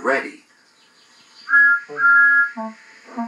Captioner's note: Thomas' Whistle Blows